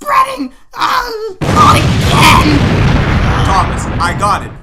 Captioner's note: explosion heard